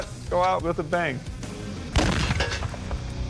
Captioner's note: explosion